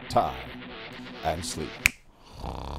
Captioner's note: snap!